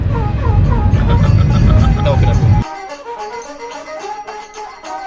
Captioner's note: laugh